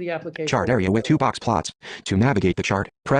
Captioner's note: voiceover